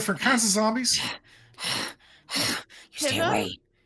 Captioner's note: Pivam grunts